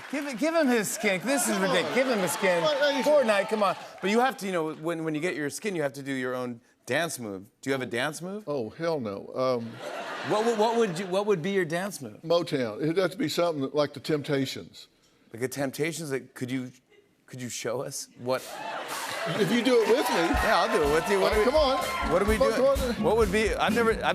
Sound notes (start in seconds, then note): 9.6 laughter